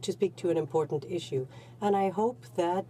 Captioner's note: speaking French